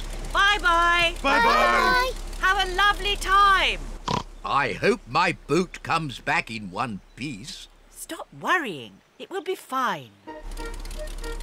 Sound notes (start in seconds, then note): 4.0 oinks